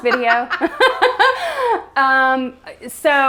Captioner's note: laughs